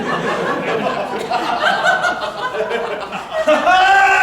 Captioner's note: the three laugh anxiously; laughter